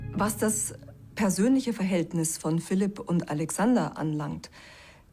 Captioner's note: in German